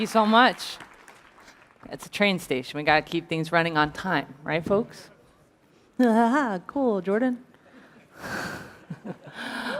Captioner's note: applause